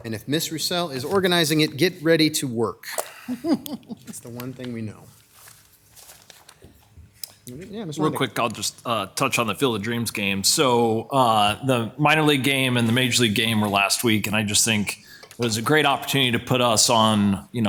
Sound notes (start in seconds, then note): 2.9 laughing